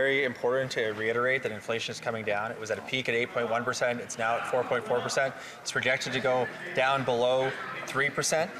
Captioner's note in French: voix de l'interprète